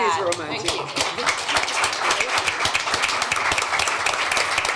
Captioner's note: applause